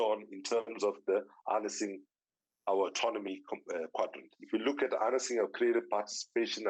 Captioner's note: none